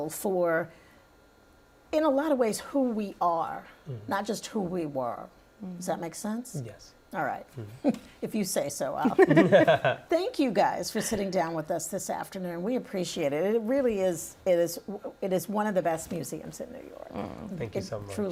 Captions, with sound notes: and take a look at this and really get a feel for... in a lot of ways who we are, not just who we were. - Mm-hmm. - Does that make sense? - Yes. - All right. If you say so. - [laughter] Thank you guys for sitting down with us this afternoon. We appreciate it. It really is-- It is one of the best museums in New York. - Mm. - Thank you so much.